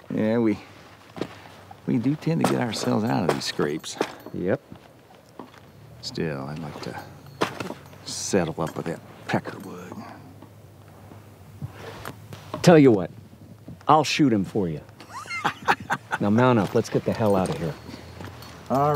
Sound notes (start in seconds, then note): 15.0 laughs